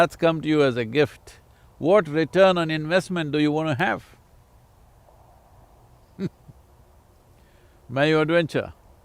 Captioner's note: laughs